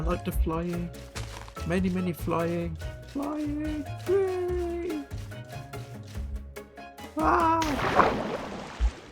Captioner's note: splash